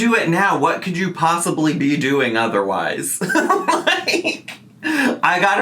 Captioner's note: laughs